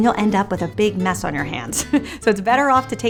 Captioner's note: laughing